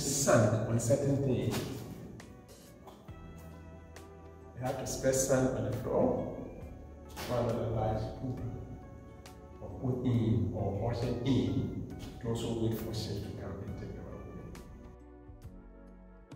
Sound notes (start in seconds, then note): 9.2 speaks foreign language